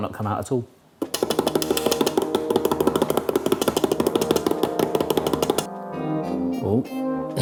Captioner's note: fingers tapping; suspenseful music